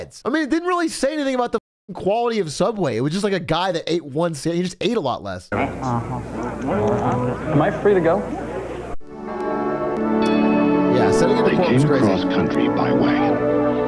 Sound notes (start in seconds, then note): 5.7 eating noises